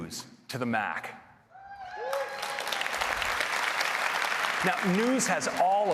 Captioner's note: applause